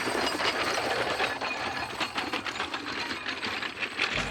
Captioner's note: men shout in unison; horse carriage rattles